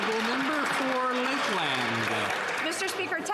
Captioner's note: some Applause